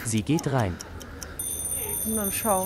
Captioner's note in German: Eieruhrklingeln